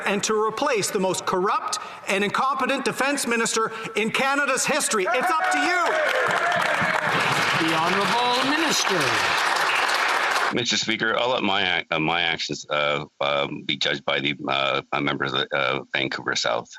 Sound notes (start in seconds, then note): 9.3 some Applause